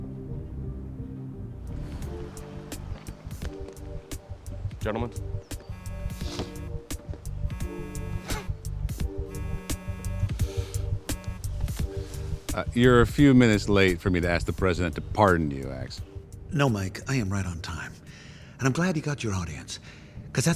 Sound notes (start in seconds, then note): 2.1 upbeat music; 7.2 phone buzzing